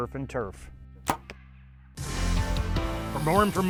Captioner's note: arrow thuds; upbeat music